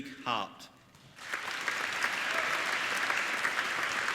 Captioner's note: applauding